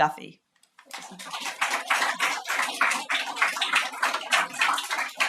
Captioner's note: audience applauds